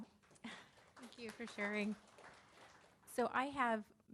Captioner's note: audience applauding